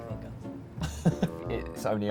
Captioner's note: laughing